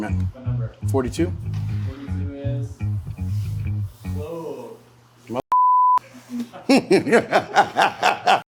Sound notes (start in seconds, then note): 6.6 laughing